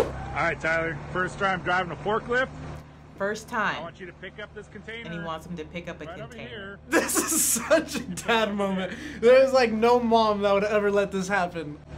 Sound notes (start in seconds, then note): 6.8 laughs